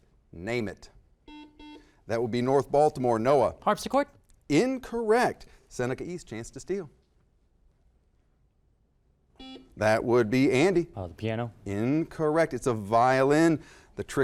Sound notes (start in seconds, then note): 1.2 buzzer; 9.4 buzzer